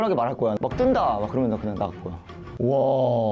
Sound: nervously

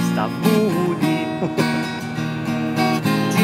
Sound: laughters

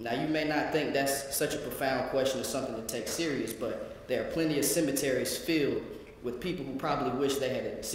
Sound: none

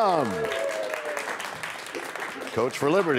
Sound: cheers and applause

